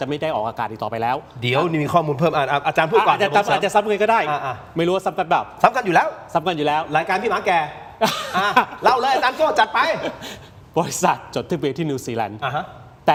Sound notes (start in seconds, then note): 8.0 laughter